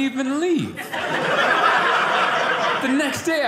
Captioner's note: audience laughing